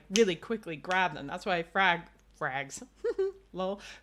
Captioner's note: laughs